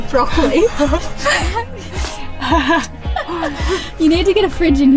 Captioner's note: laughs